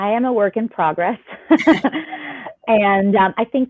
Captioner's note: laughter